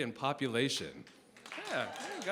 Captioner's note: applause